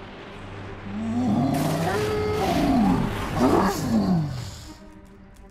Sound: roaring continues

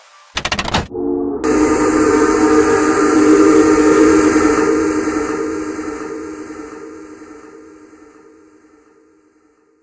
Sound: train whistle blows and echoes

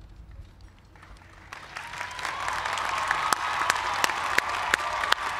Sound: applause

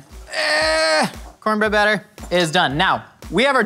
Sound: groans

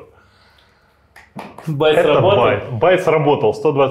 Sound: claps

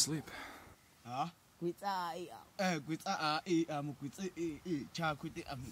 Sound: men speaking foreign language

